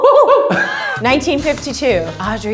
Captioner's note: laughing